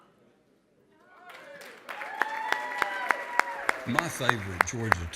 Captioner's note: applause